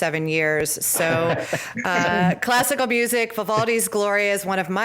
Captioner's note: laughter